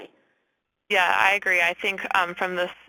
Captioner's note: voiceover